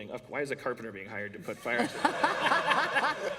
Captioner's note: laughter